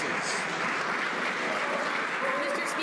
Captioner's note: some Applause